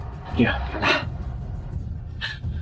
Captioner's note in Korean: 한숨